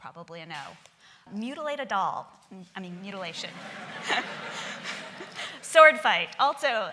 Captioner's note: laughing